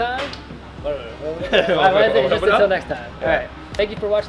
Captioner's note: laughs and mumbles